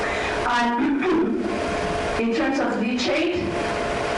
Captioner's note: clears throat